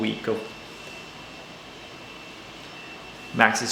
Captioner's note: hair dryer whirring